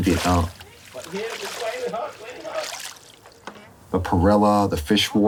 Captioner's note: water splashing